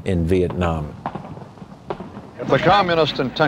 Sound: guns firing

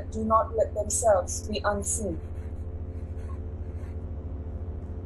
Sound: scribbling

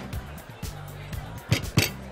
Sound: pounding table

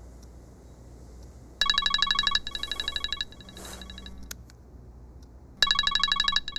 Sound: phone ringing

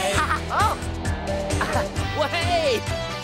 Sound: laughs

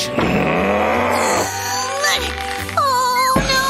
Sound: grumbles

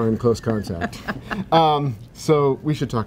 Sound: laughing

